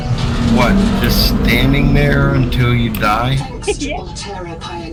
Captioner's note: laughter